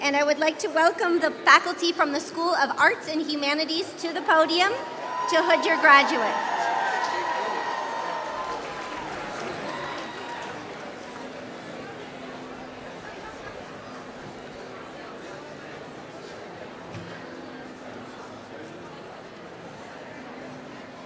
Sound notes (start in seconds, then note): 16.6 applause